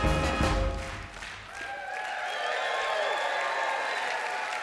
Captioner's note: cheers and applause